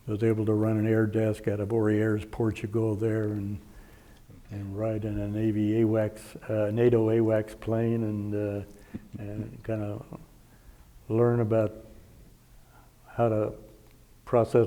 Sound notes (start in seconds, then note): 8.8 chuckling